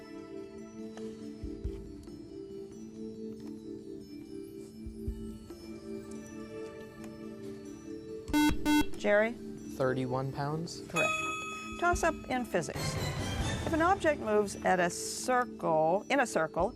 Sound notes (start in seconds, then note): 8.3 buzzer